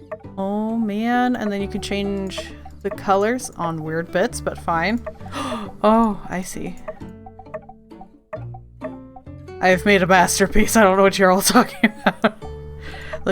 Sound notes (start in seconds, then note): 5.3 gasp; 11.6 laughs